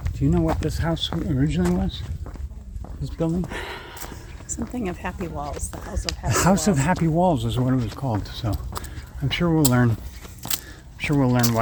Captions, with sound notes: Do you know what this house originally was? This building? -[sigh] Something of happy walls. The House of Happy Walls. -The House of Happy Walls is what it is called, so I'm sure we'll learn- I'm sure will learn why